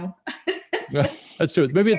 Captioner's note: laughs